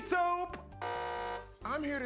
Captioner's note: buzzer